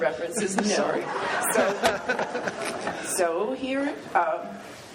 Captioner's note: laughs